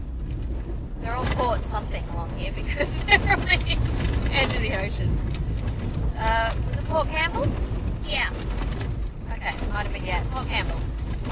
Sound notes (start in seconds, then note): 2.7 laughing